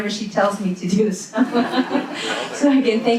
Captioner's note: all laugh